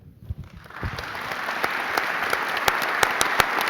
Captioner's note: applauding